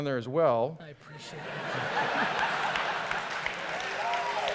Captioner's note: audience laughter and applause